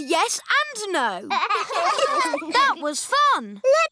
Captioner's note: laughter